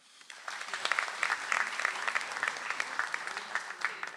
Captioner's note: audience applauds